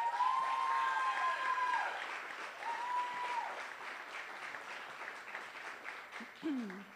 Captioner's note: applause